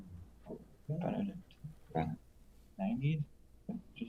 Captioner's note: murmuring